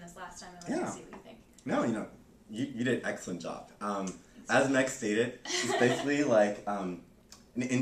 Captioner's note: laughter